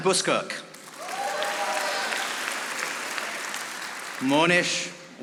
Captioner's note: audience applauding